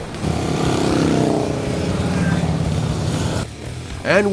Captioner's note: motorcycle engines purr